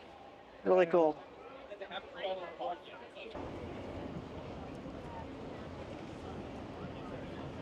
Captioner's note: people chattering